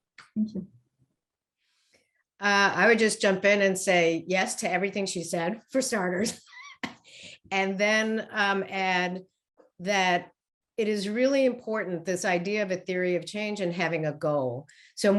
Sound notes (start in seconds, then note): 6.2 laughs